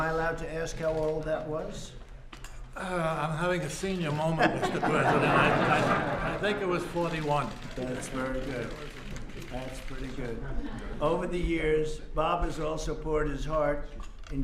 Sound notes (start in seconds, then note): 4.3 laughter